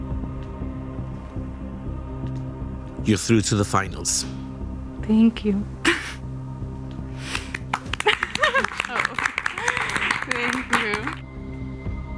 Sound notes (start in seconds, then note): 7.3 group applauds; 8.0 laughs